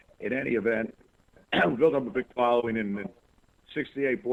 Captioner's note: cough